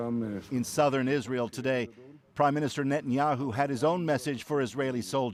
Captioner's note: speaking alternate language